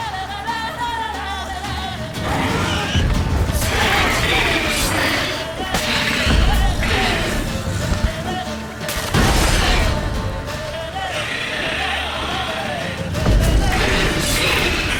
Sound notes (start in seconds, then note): 2.9 screech; 6.3 Aard booms; 8.9 Quen shield explodes; 11.9 screech; 13.2 Aard booms